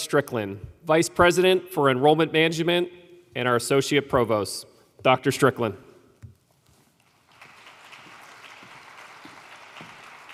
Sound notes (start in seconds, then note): 7.0 applause